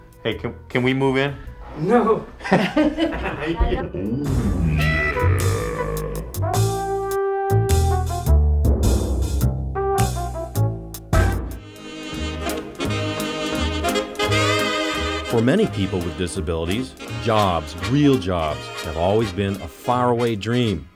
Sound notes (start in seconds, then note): 4.6 laughs